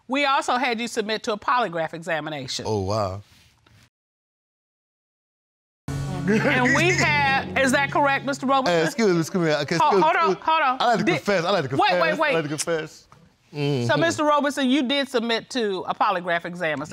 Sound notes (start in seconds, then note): 8.9 stutters